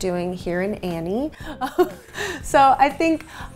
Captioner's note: chuckling